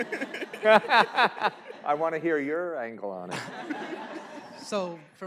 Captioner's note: laughs